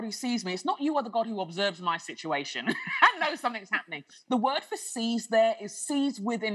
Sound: laughter

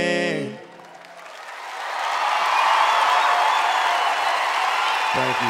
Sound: cheers and applause

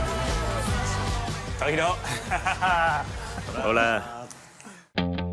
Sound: laughs

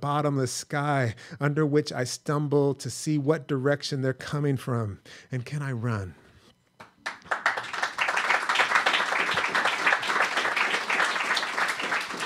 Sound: applause

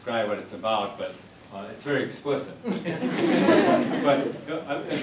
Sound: laughter

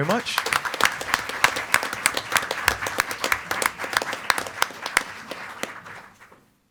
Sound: board members and attendees applaud

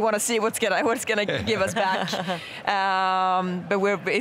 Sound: laughing

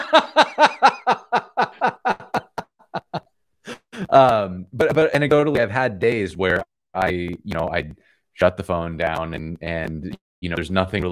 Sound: laughter

